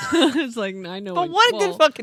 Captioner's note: laughing